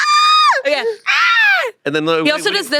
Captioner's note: screams